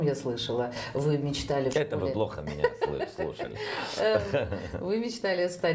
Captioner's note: the host laughs